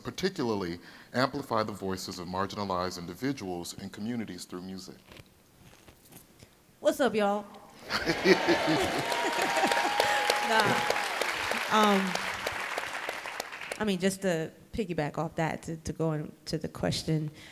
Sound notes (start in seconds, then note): 7.9 audience cheering